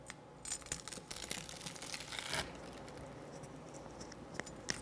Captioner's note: panko scraping